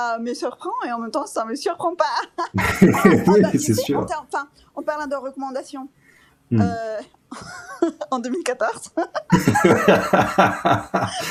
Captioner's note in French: rires